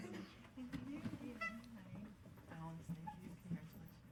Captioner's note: woman speaking faintly